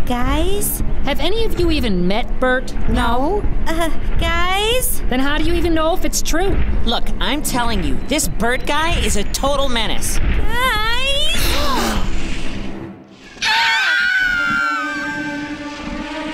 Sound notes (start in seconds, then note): 11.7 gasping; 13.3 screaming; 16.1 ominous music